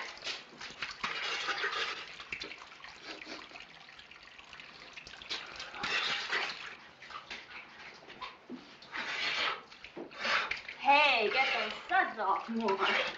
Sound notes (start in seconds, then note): 2.7 sniffs